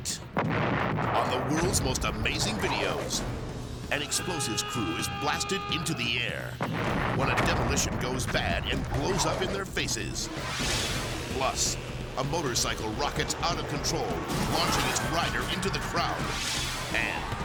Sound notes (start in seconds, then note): 0.3 explosion booms; 4.1 foghorn blaring; 6.6 explosions booming; 10.3 graphic swishes; 10.3 debris whirring; 14.3 spectators screaming; 16.2 graphic swishes; 16.6 crowd cheering